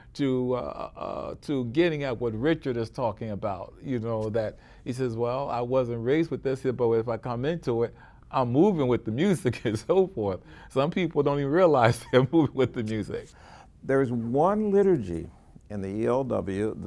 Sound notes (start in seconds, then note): 9.7 chuckles; 11.9 chuckles